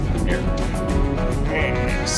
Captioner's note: laughs